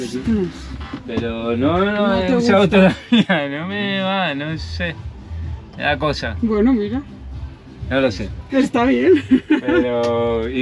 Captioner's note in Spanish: risas